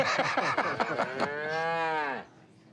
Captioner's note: laughter; cow mooing